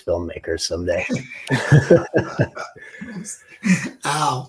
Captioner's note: they all laugh